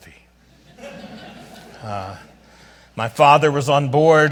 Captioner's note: audience laughs